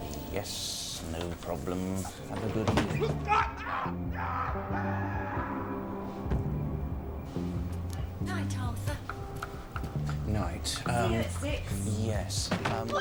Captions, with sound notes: "Yes, no problem." "Have a good eve--" (distant screams, thud) "Night, Arthur!" "N-night..." "Um.." "See you at six!" "Yes... um-"